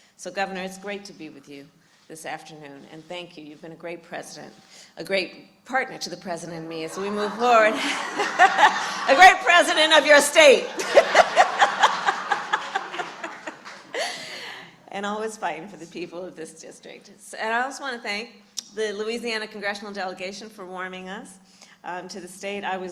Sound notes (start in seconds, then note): 13.5 laughter